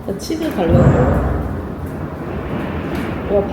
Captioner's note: something fell